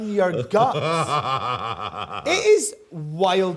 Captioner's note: laughs